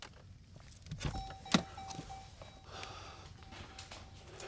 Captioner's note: car beeping